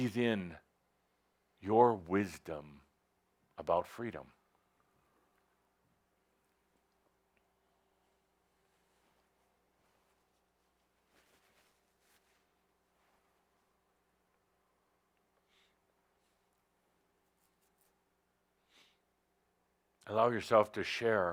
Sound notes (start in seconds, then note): 9.6 long pause